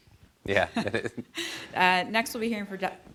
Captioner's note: laughter